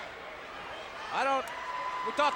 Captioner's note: audience cheers